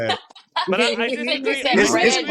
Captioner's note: laughing